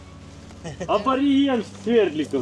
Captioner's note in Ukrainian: сміх